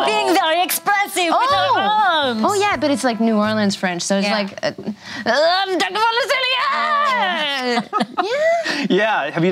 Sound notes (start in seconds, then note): 4.4 speaking in foreign language; 6.6 laughing